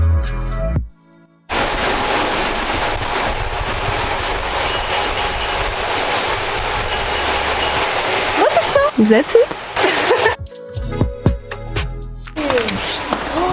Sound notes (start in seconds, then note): 9.8 laugh